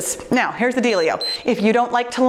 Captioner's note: timer beeps